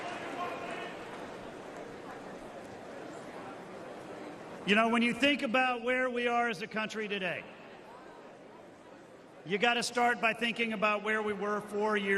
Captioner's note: cheers and applause